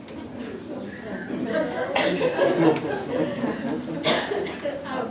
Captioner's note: laughter